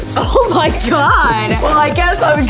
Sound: laughing

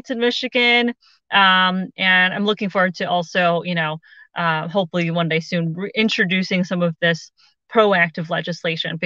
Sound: none

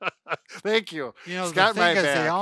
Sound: laughs

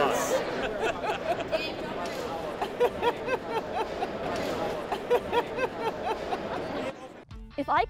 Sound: continuous laughter

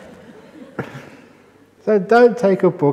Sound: laughter

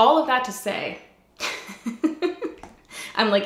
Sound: laughs

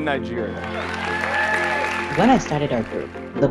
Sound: cheering

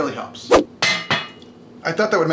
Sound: clanking

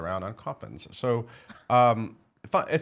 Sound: laughing

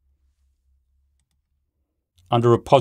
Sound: mouse clicks

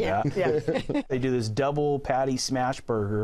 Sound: laughs

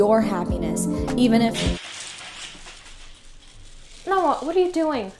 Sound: beads falling

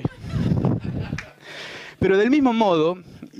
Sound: laughter

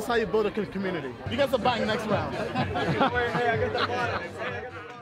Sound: laughs

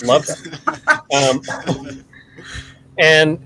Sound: laughing

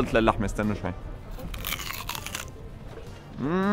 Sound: satisfying crunch sound

